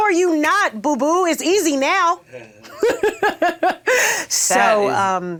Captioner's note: laughs